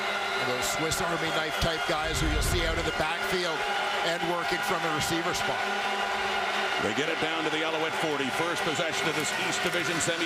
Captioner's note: crowd Noise